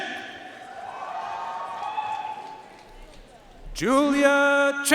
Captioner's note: audience cheering and applauding